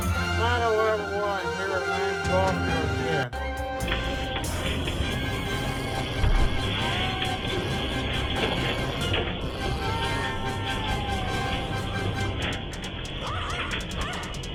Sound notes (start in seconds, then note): 3.5 Ella growls and Caprice yowls and hisses at the pest control person and Brandon